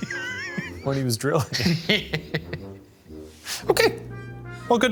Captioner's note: laughs